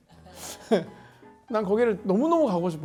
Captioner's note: laughs